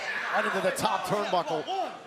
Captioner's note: crowd cheering